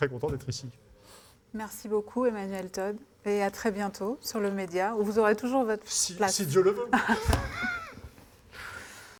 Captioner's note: laughing